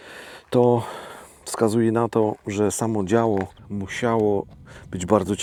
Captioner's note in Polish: wciągnięcie powietrza